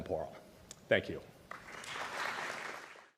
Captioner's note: applause